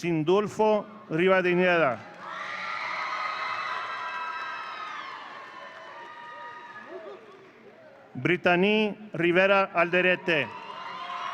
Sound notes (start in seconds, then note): 2.0 audience cheering; 9.8 audience cheering